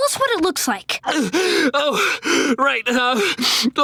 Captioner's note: sniffling